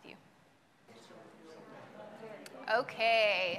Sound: group chattering

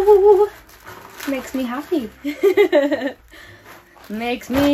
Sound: laughing

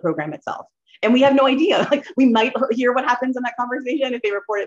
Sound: laughter

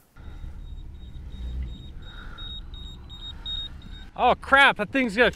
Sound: monitor beeping

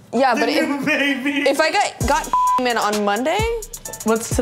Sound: beep

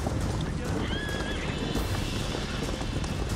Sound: horse neighs

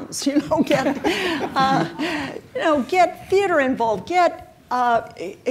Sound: chuckles

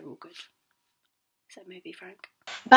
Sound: whispers

